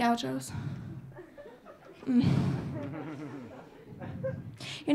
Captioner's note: audience laughing